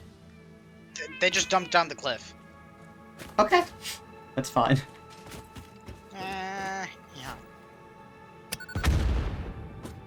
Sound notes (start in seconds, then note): 6.1 cat noise; 8.7 boom